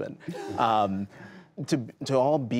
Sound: laughter

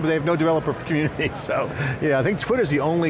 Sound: laughs

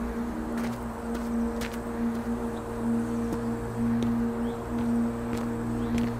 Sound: footsteps crunching on gravel

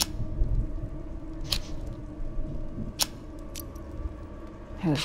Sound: matches strike

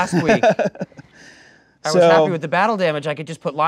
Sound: laughing

